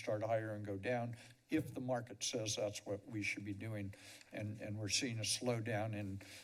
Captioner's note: none